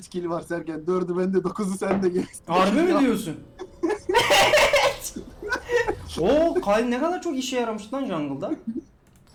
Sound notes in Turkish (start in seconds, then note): 3.6 çok yüksek sesli gülüşmeler